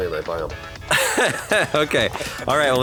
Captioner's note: laughter